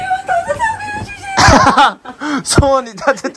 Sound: laughing

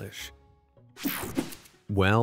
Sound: logo whooshing

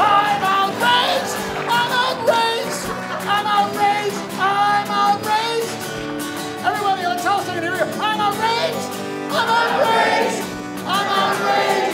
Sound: audience laughs

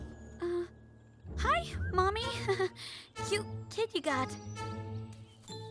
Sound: nervous chuckle

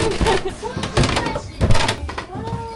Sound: crunch crunch

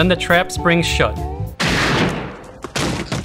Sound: gunfire

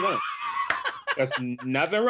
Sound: laughs

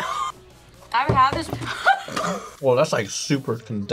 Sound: laughs

